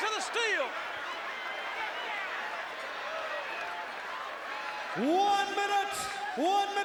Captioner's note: applause